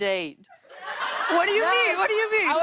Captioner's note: laughter